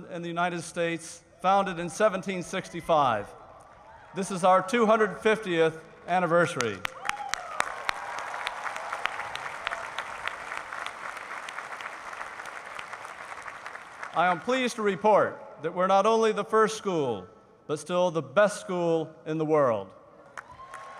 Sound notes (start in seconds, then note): 6.5 applause; 20.3 cheering